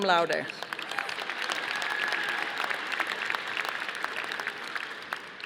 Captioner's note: audience applauding